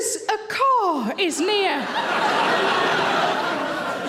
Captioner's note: audience laughing